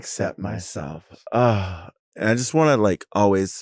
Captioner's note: Sapphira sighs